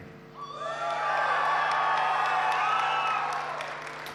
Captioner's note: applause